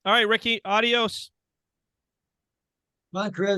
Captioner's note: speaking in Spanish